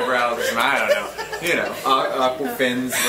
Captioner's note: group laughs